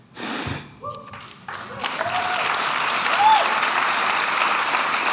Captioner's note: audience applauds